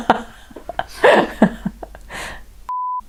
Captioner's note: laughs